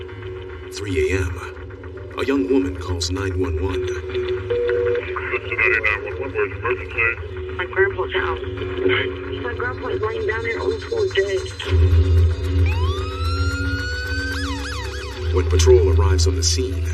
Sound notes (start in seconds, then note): 4.0 line beeps; 13.7 sirens wailing